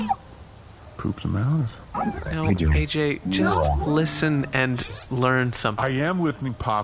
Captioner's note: quietly